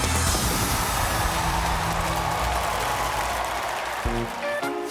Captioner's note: cheers and applause; laughs